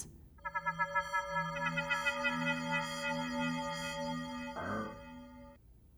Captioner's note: robotic bell sounds ringing out